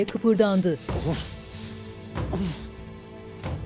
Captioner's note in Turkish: Nefes sesi